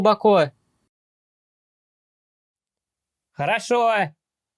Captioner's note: silence